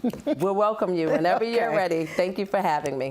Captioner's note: laughs